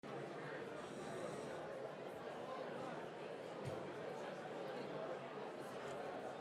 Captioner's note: crowd chatters